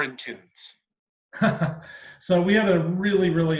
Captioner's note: chuckles